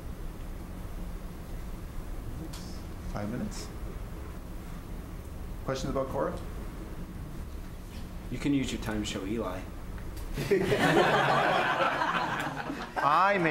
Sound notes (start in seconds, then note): 10.3 laughter